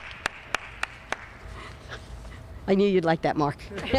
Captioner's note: applause